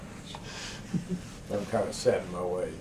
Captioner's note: laughter